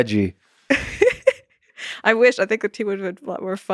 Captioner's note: laughs